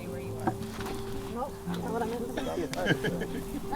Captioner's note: laughs